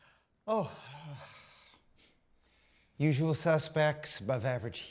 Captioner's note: sighs